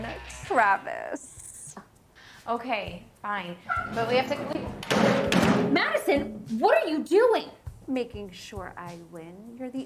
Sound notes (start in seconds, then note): 3.8 door thuds